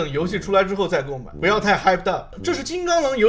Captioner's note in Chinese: 兴奋